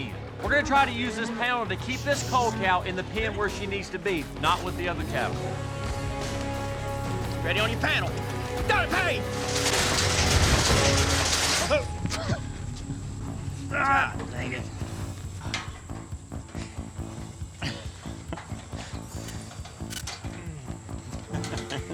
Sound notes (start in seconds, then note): 10.5 panel falls; 13.6 groaning; 17.6 chuckling